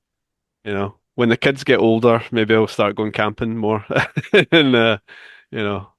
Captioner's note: laughs